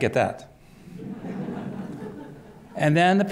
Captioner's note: laughter